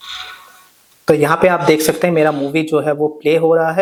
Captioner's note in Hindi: नाक से की जाने वाली आवाज़